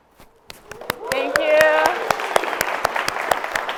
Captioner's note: audience applauds